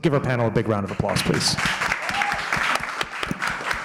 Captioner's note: applause